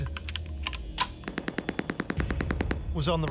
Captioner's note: machine gun fire